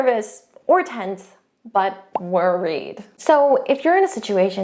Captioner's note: bubble popping